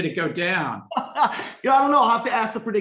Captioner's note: laughs